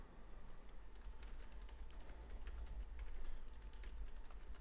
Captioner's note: types on keyboard